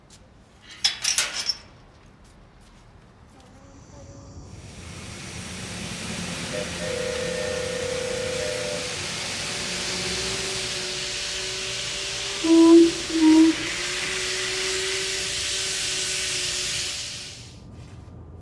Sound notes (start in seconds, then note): 0.7 gate closing; 3.8 train horn blaring; 12.3 James imitates train horn blaring